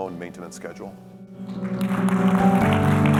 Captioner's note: applause; concluding music